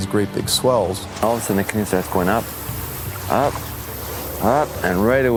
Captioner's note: paddling and wave sound